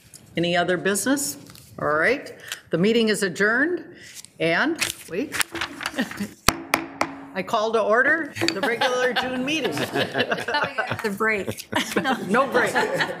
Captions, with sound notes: Any other business? Alright, the meeting is adjourned. And wait, (laughs) (gavel banging) I call to order the regular June meeting. (people laughing) - No break. (people laughing)